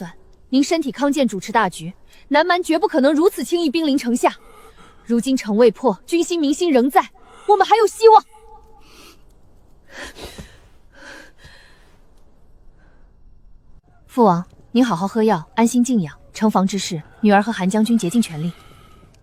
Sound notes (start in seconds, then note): 7.2 sigh